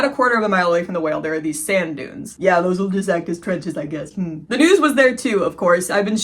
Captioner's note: mocking tone